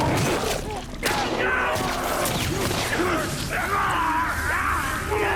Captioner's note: groan; scream; groan